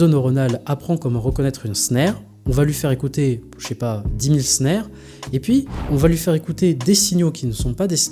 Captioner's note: synthetic signal